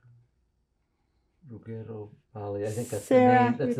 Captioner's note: italian